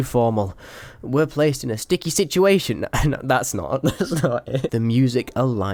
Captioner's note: laughs